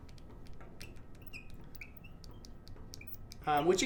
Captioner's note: marker squeaking